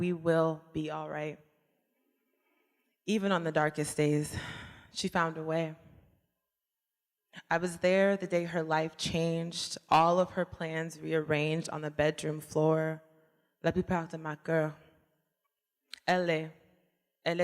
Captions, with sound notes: We will be all right Even on the darkest days, she found a way I was there the day her life changed All of her plans rearranged On the bedroom floor [SPEAKING FRENCH]